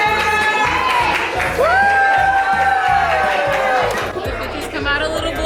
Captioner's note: crowds clapping; crowds cheering